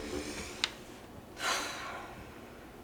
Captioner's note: exhales sharply